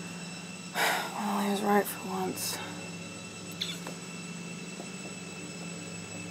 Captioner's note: ominous music continues; sighs